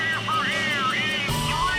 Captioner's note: engines whir shrilly